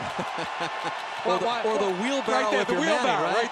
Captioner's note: laughs